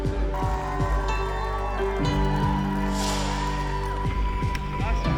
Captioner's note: crowd cheering